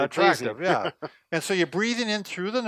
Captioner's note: laughs